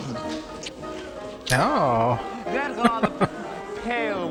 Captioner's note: chuckling